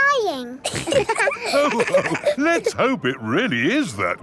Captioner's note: all laughing